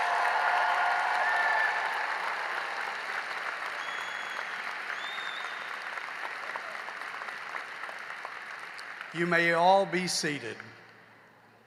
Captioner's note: cheering and applause